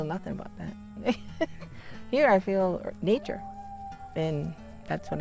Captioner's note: laughs